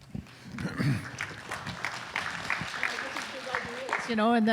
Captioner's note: applause